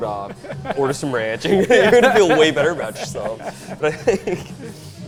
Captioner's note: laughs